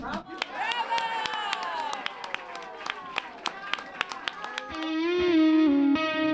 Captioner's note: clapping